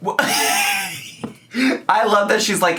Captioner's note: laughs